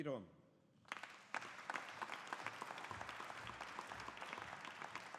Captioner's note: audience applauding